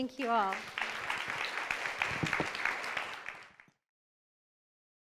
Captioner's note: audience applauds